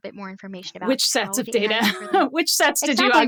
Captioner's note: laughs